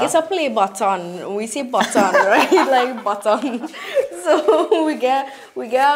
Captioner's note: hahaha